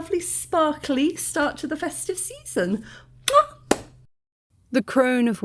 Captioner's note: blows kiss